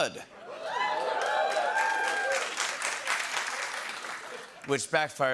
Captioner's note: cheers and applause